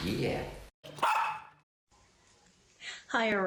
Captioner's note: barking